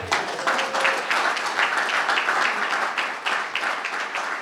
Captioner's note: crowd clapping